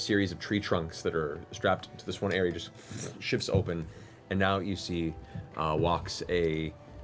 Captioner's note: tree trunks shifting